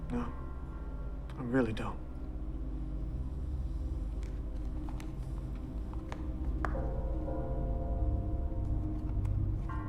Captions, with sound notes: - No, I really don't. (suspenseful music) (shoes tapping)